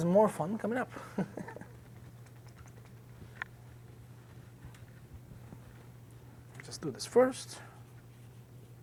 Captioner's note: chuckles